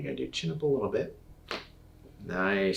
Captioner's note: neck cracks